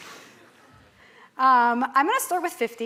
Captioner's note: laughter